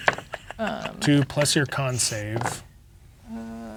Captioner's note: laughing; dice rolling